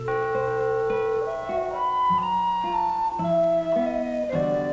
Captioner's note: church bells ringing